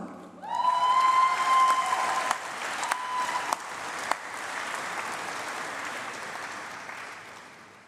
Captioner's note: applause